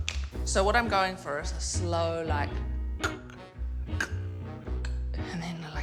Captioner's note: imitates slow creaking